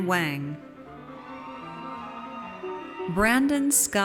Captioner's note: audience cheers